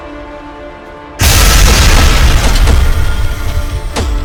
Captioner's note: ground crashes; steps thudding